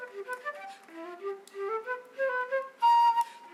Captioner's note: speaking in foreign language